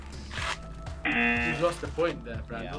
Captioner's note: pie crunching; pie crunches; klaxon blares